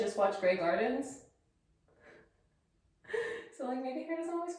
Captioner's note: laugh